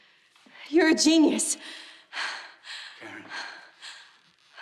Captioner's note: gasping